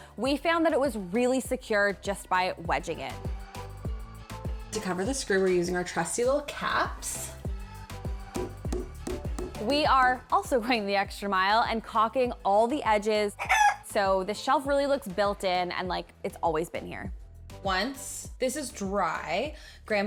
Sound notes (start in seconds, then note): 3.3 soft music; 7.1 soft music; 8.4 hammer banging; 13.5 chicken clucking